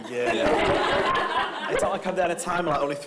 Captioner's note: everyone laughing